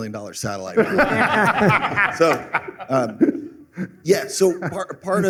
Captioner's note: laughter